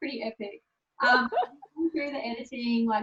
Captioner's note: laughing